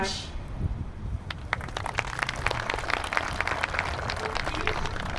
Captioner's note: applause